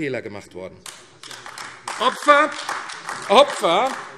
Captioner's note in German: Beifall AfD